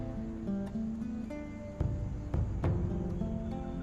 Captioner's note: none